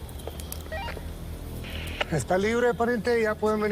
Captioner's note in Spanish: Pitido